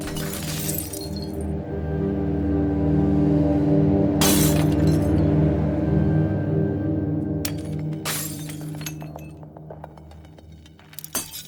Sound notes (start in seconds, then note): 0.0 glass shattering; 4.2 glass shattering; 7.4 glass shattering